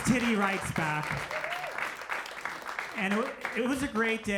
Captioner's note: audience applauding